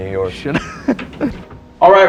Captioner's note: Paul laughs